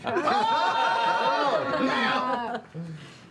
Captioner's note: yelling